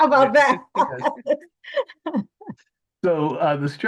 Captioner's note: laughs